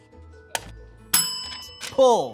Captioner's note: bell ringing